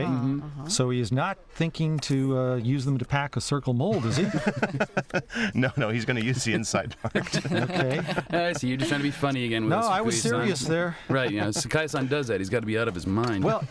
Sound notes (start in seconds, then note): 3.9 laughter